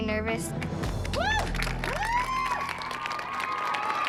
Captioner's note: applause and cheering